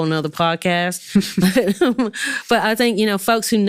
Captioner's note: both laughing